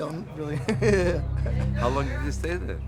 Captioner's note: laughs